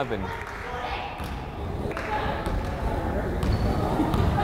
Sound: crowd chattering

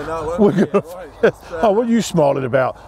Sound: laughs

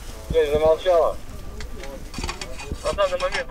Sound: radio exchange

